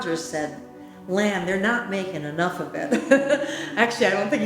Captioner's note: laughs